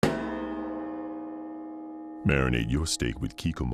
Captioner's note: gong